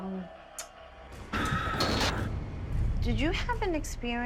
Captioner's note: haunting sounds